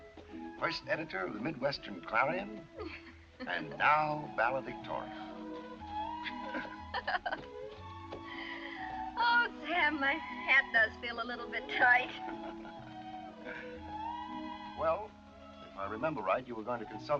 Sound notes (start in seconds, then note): 6.1 laughs